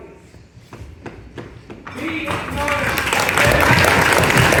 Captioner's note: loud applause